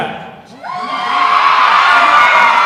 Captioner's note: cheering